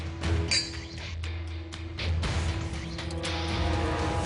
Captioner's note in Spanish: Chocan las copas